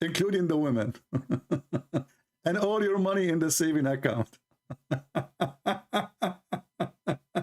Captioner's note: Ketawa